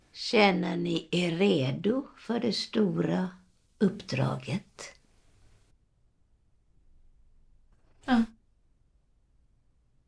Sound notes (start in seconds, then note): none